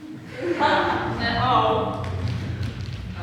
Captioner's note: audience laughs